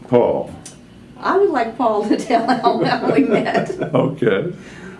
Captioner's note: laughter